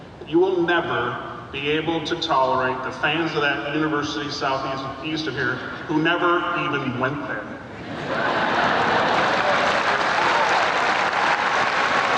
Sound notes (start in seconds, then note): 8.1 audience applauding